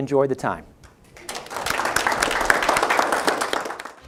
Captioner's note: applause